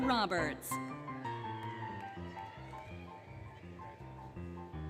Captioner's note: applause, Cheering, Music